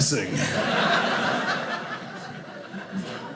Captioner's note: audience laughing